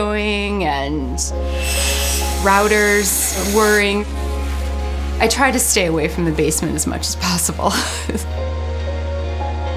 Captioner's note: laughs